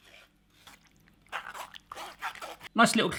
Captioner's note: scrapes